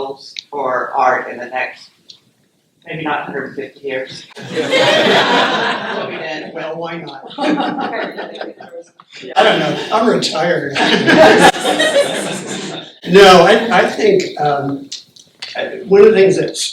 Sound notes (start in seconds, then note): 4.3 laugher; 8.3 laughter